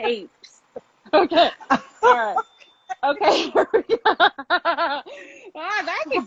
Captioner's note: laughs